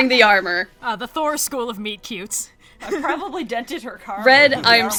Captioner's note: laughs